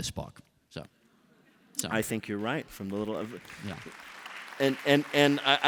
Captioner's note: applause